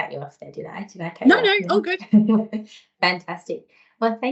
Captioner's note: chuckles